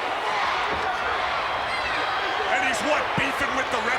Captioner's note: crowd cheering